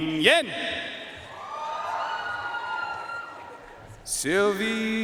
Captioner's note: audience cheering and applauding